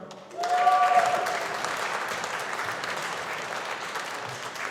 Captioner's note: audience applauding